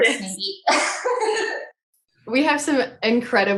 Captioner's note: laughs